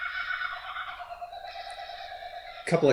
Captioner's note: kookaburras cackling